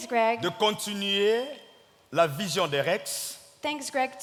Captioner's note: speaking in French